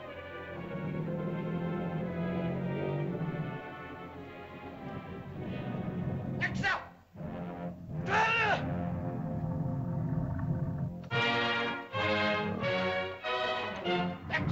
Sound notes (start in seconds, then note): 0.0 dramatic music; 6.4 shouting in caveman language; 7.9 lizard grumbles; 11.0 triumphant music; 14.3 speaking in caveman language